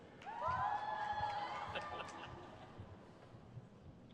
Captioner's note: crowd cheers